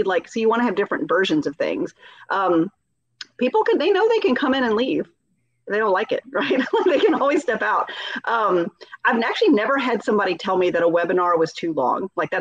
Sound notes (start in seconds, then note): 6.2 laughing